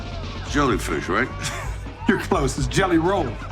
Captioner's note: giggles